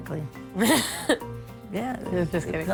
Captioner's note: laughing